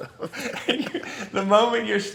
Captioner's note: laughing